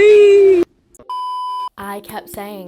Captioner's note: beeping